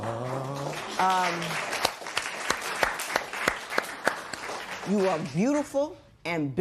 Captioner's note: applause